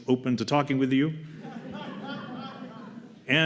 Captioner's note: laughter